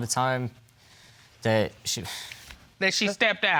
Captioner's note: hesitatingly